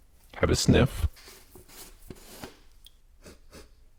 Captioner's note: sniffs